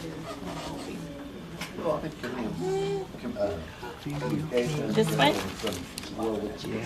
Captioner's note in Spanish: Conversaciones de fondo